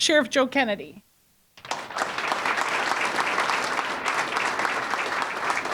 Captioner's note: audience applauding